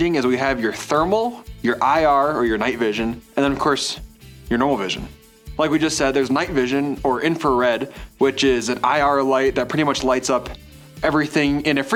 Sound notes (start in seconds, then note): none